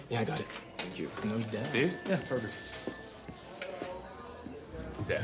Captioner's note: cellphone chimes